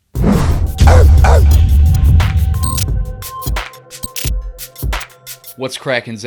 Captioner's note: upbeat music; dog barking